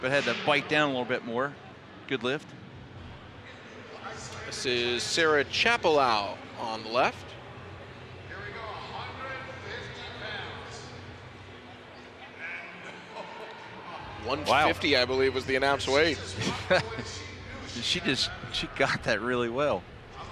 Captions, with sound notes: But had to bite down a little bit more. Good lift. This is Sarah Chappelow on the left. 150 I believe was the announced weight. [Laughs] She just - she got that really well.